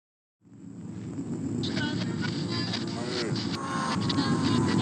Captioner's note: radio static